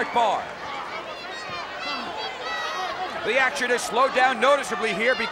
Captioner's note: applause